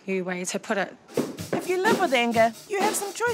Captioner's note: punching sounds